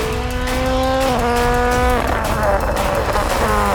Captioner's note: car engine roaring